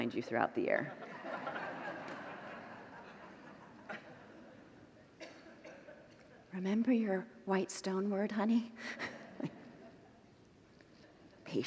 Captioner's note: congregants laugh